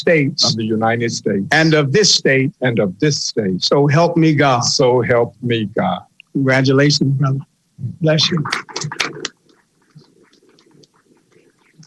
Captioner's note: applause